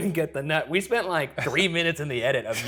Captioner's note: chuckling